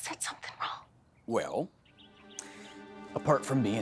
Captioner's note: whispering